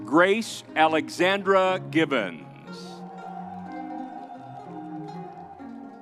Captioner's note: crowd cheering